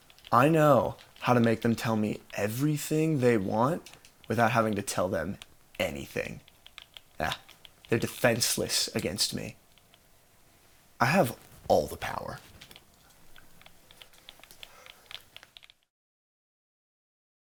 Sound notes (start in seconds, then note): 13.9 game controller buttons clicking